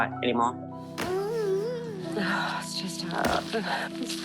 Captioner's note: boy groans